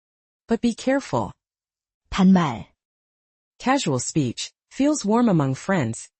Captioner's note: casual speech